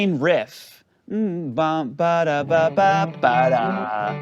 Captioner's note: makes guitar sounds; guitar playing